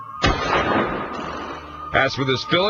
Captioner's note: gun firing